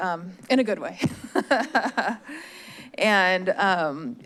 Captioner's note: laugh